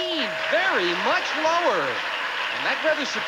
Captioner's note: audience applauding